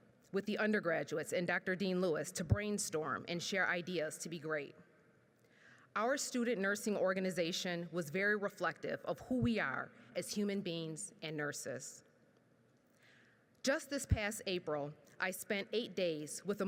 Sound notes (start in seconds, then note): none